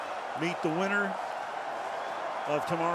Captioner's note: whistles